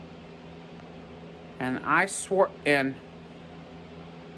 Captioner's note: stammers